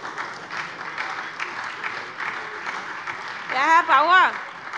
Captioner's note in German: Beifall SPD, Freie Demokraten und vereinzelt AfD - Zuruf CDU